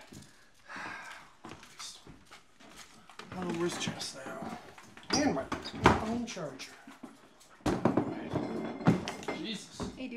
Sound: footsteps

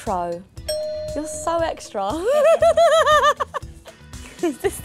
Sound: bell ringing

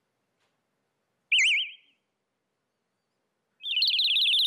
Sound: birds chirping

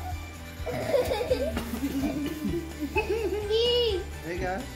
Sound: children laughing

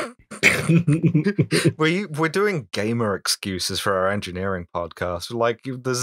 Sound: laughter

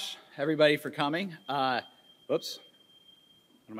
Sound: microphone feedback screeching

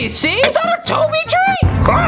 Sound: gurgled scream

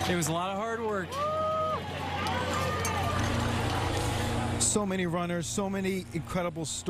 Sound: cheers and applause

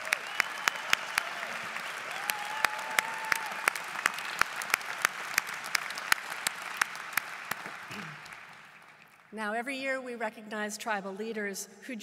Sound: applause

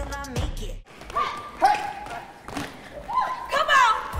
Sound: dance music; cheering while dancing

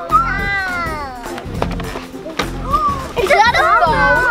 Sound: child shrieking; child gasps

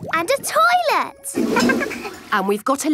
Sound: toilet flush

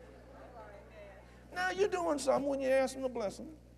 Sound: agreement & Laughter

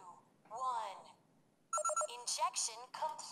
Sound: beeping

